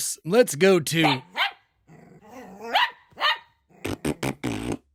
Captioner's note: dog Barking